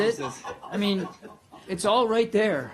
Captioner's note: laughter